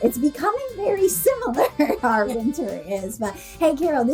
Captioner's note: laughs